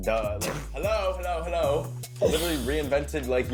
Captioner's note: laughs